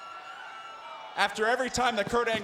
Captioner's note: applause